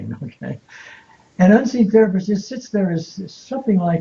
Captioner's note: giggling